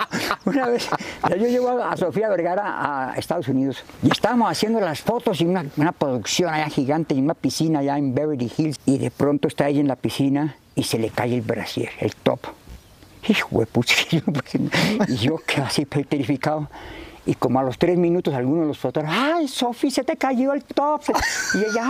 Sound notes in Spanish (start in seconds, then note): 2.1 Riendo